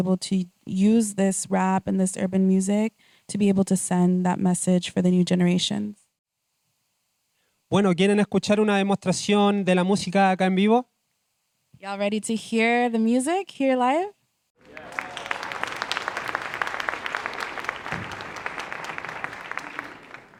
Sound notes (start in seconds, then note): 8.8 speaking Spanish; 18.4 applause